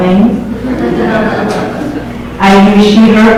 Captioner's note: audience laughs